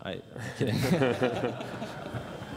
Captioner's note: laughter